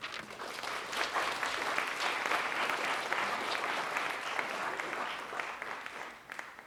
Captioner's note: audience clapping